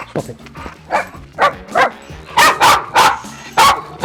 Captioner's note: barking